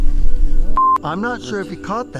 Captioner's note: tender suspenseful music; beep